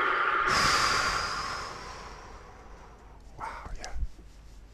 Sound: sighs

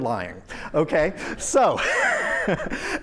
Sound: laughter

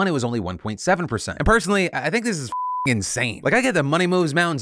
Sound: beep

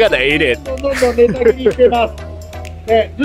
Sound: laughs

